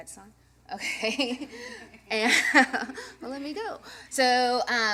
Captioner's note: chuckling